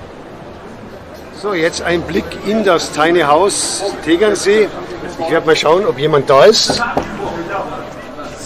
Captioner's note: knock, knock